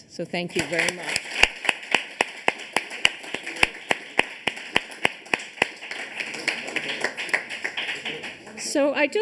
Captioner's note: applause